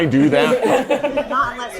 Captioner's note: laughter